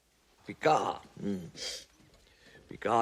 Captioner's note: sniffs